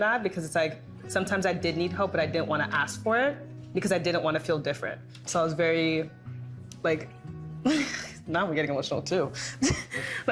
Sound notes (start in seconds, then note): 7.3 chuckling